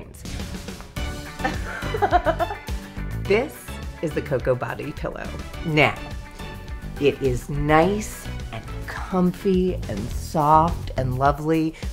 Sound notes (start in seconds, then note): 0.2 upbeat music; 1.4 laughter